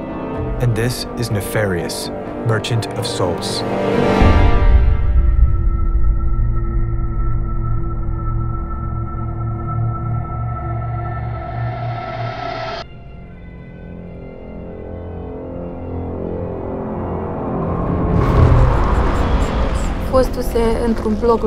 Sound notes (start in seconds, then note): 12.6 ambulance siren